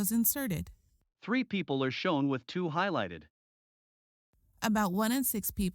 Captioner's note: voiceover